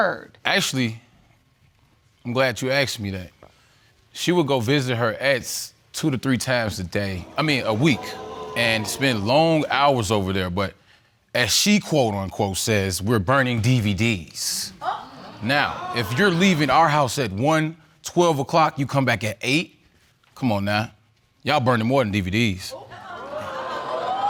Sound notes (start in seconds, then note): 14.5 audience exclaims; 23.4 audience exclaims